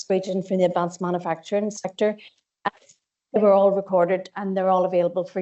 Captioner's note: audio distorts 27.02